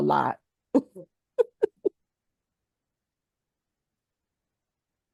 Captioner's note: laughs